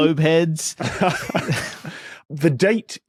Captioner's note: laugh